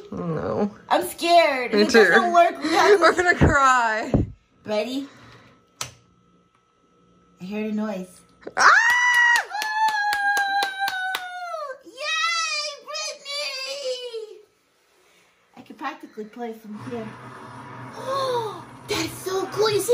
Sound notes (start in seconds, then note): 5.8 clicks; 8.6 cheering